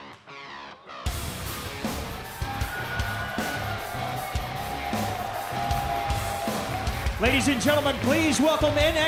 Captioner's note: crowd cheering